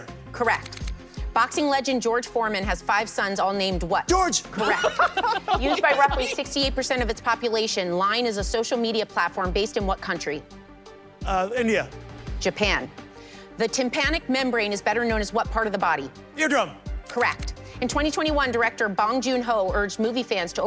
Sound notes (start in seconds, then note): 4.5 laughter